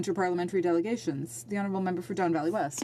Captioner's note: speaking French